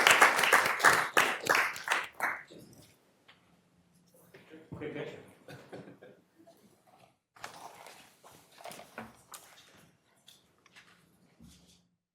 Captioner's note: applause